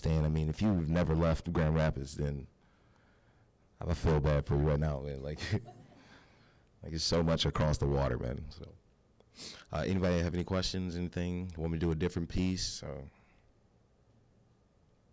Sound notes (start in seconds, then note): 5.4 audience laughing